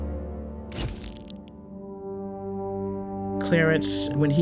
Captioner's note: shutter clicks